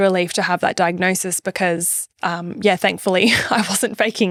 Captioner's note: laughing